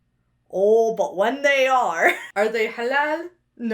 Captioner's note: chuckles